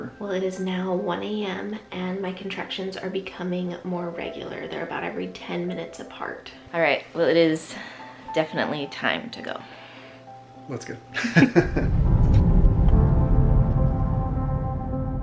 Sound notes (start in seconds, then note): 11.2 laughs; 12.3 hopeful music